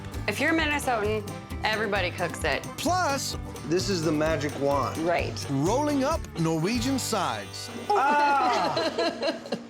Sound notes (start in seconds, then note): 8.0 laughs